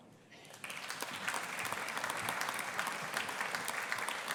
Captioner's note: audience applauding